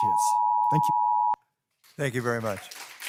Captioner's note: machine beeping